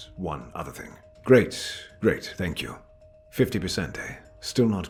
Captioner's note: speaks in a mysterious, conspiratorial tone